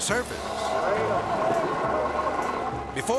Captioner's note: people moaning